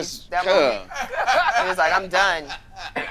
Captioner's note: group laughing